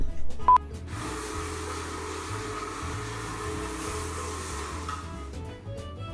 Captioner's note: mechanical Buffing Sound